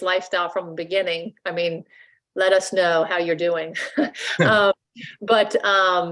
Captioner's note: laughs